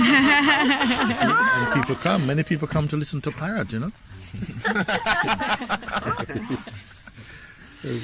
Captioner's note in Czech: smích; smích